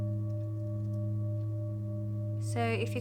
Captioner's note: chiming sounds